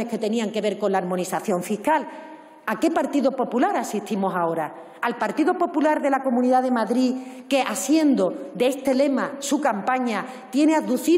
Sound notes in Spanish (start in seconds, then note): none